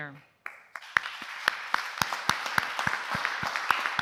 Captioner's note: applause